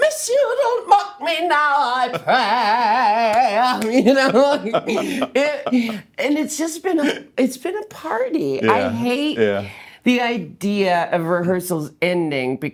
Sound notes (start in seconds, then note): 4.0 laughing